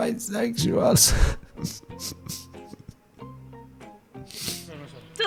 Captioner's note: sobs